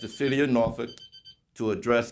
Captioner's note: beeper